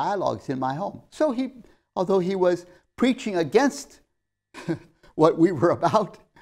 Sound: laughs

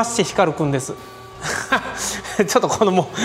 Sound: laughs

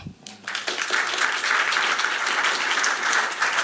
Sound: applause

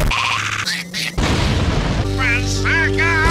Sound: Loud noises and Berserko cackling in rhythm; boom; kaboom

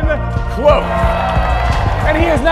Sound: crowd cheering

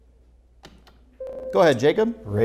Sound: beeping

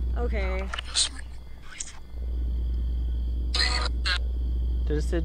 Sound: Necrophonic app screeching

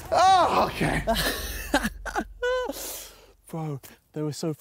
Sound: laughter

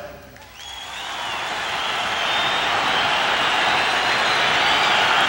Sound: audience cheers

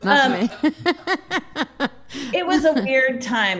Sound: laughing

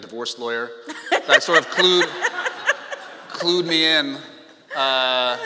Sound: laughing

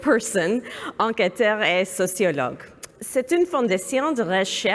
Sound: speaking french

